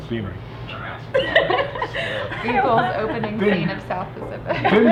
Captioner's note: everyone laughing